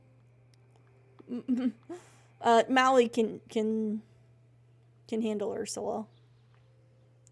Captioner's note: laughs